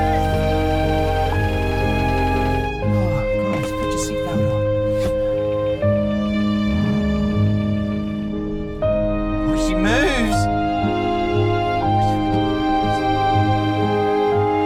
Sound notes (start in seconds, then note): 6.6 Libby growls like a kitten; 11.8 disbelievingly